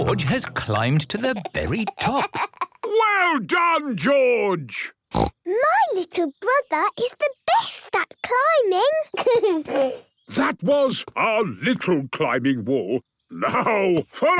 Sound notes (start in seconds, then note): 5.1 snorts; 9.1 giggles